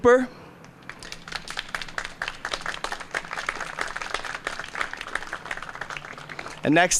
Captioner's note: applause